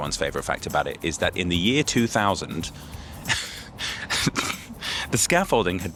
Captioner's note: laughs